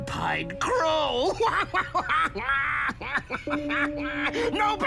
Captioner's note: laughing